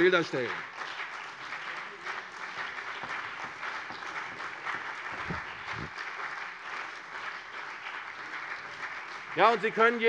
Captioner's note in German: Beifall CDU und BÜNDNIS 90/DIE GRÜNEN